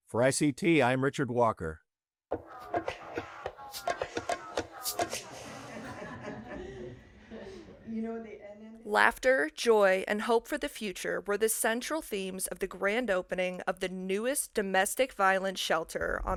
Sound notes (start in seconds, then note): 2.3 lively rhythmic music; 4.3 laughing